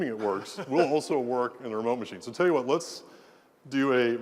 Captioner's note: laugh